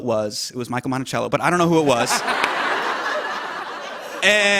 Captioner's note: laughter